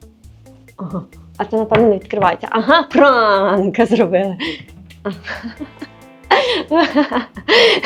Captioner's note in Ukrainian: сміх